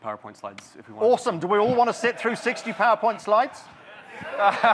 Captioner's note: audience cheers